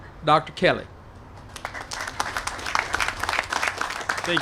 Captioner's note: applause